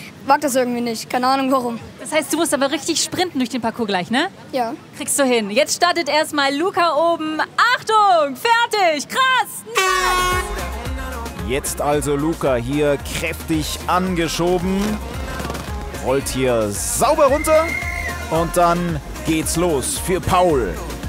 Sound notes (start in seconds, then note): 10.1 Heitere Popmusik; 17.2 Pfiff